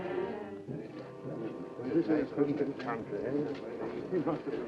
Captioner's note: men chattering